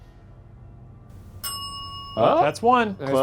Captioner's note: bell dings